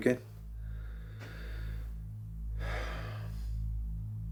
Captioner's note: Jamie sighs